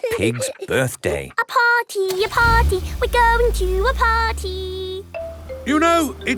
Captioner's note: giggling; sing song voice